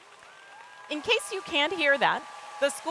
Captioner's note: people cheering